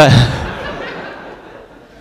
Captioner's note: laugh